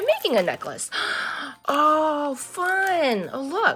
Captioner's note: gasps